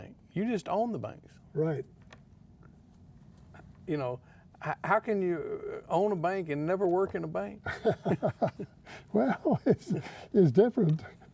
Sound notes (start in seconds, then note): 7.6 laughing